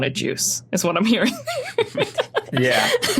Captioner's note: giggles